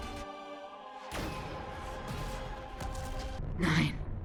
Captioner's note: boom